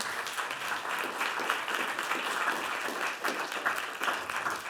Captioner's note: Aplodeja